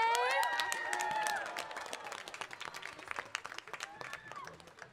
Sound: audience applauding

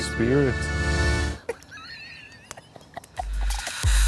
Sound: laughing; upbeat spooky music

